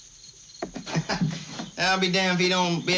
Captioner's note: laughing